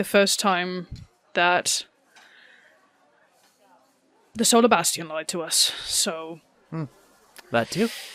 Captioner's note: sighs